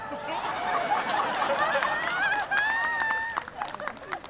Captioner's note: people laughing